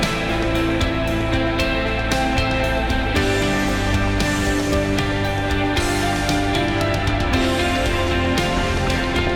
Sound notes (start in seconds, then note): 5.9 cheering